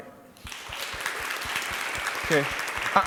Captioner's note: audience applauding